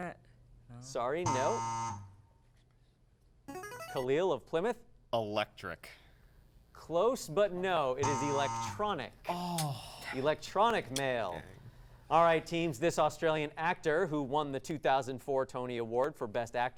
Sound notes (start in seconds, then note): 1.3 buzzing sound; 3.5 device sound; 7.4 buzzing sound